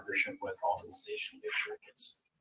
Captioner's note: speaking faintly